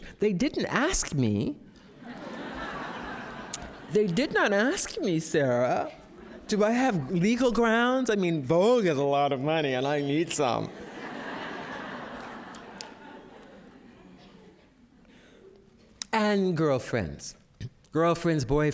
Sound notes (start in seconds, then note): 10.6 laughter